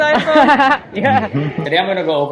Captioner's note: laughing